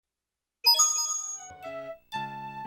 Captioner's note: Mario 64 coin sfx